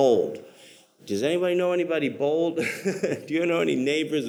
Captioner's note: laughs